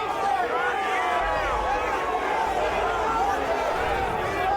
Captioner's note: crowd yelling